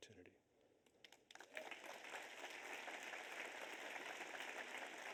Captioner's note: audience applauds